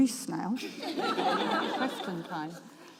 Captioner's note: audience laughs